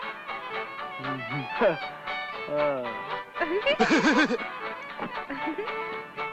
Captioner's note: country music; laughs